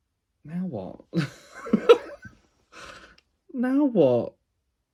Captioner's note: laughs